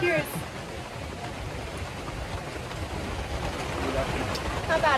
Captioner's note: water gushing